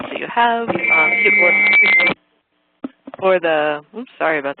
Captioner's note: screeching noise